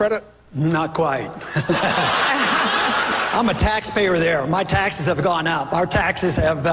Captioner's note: chuckles; laughter